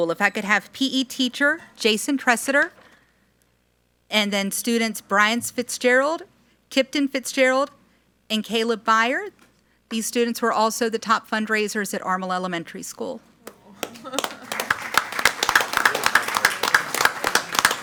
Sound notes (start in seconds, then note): 13.8 all applaud